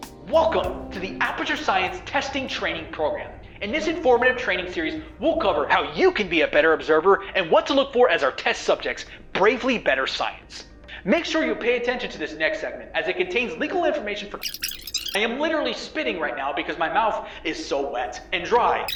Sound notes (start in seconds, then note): 14.4 sped up audio